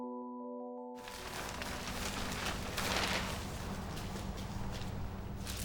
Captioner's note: plastic rustling